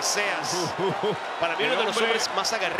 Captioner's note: laugh